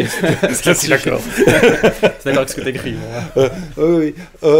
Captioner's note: laughs